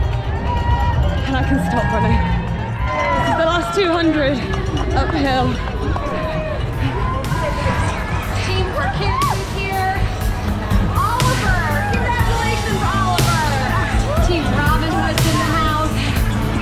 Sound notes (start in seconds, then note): 11.3 crowd noise